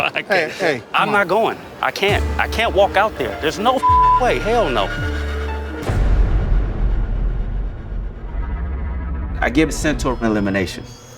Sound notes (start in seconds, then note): 3.8 beep; 5.5 ominous music